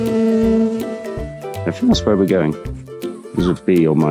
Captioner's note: bee buzzes